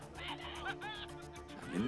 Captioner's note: man laughs